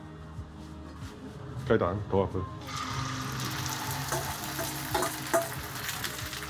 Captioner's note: sound of fried eggs